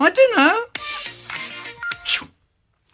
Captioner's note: ringtone playing